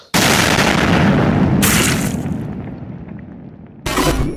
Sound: splat

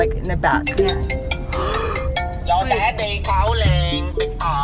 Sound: phone rings; gasps; ringtone

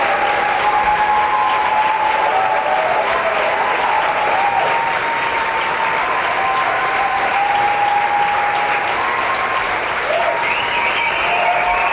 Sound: applause

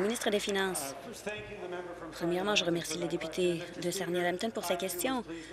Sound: applause

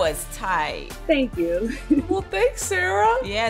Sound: chuckles

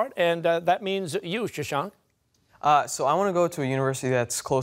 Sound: none

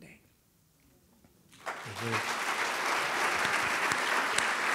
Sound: applause

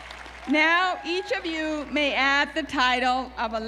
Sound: applause

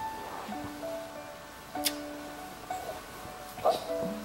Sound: smooches

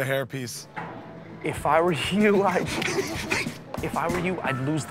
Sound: laughing

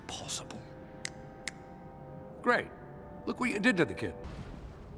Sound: PIERCE snaps his fingers

